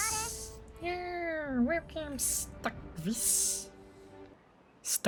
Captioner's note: beaver noises